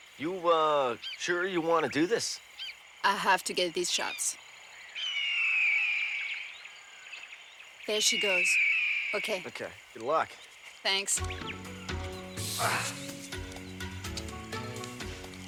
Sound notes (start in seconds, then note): 4.7 eagle caws; 11.2 dramatic music